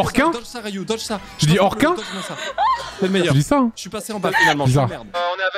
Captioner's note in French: pleure de rire